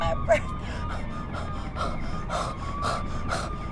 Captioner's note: panting